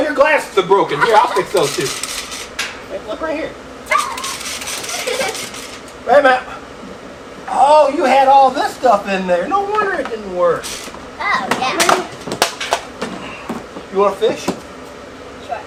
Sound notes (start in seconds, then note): 3.8 assistants shrieks